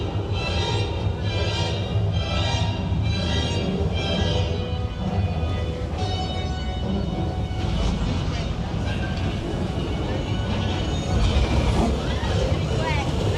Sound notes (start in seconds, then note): 8.3 fire whooshes